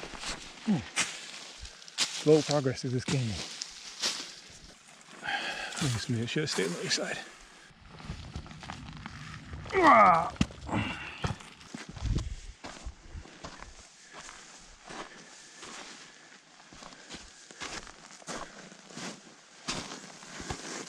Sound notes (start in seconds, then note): 0.0 leaves rustling; 9.7 grunting; 11.5 footsteps thumping